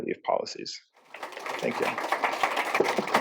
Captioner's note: applause